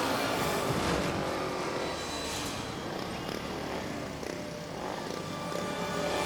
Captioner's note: bike engines rumbling